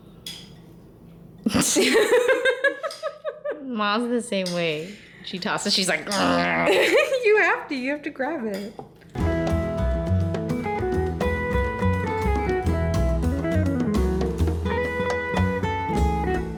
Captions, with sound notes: [Laughter] Ma's the same way. When she tosses, she's like [grunting noises]. You have to! You have to grab it.